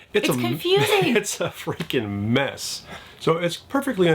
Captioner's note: chuckling